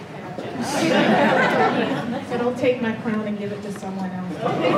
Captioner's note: laughter